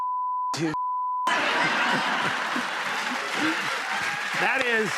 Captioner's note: laughter